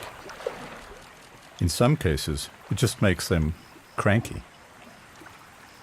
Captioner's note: animals calling